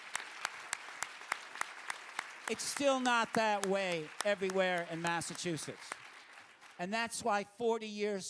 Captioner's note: applause